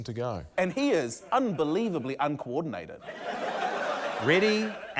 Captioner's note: laughter